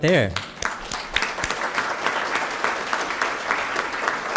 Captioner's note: applause